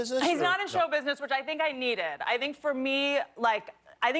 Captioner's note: laughter